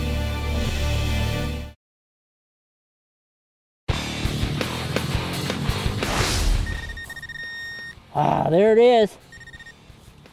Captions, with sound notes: (energetic music) (beeping) Ah there it is.